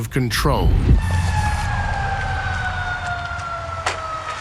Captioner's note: sirens wailing